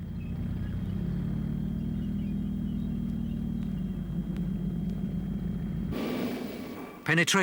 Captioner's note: engines rumbling; wheels squeaking